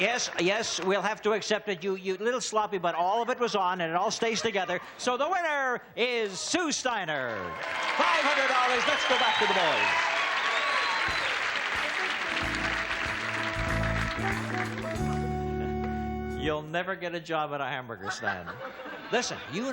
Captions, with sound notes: -Yes, yes, yes. We'll have to accept it. A little sloppy, but all of it was on, and it all stays together. So the winner is Sue Steiner! $500. Let's go back to the boys. -(applause and cheering) You'll never get a job at a hamburger stand.